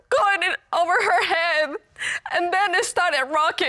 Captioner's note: sobbing